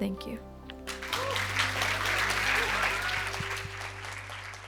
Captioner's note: cheers and applause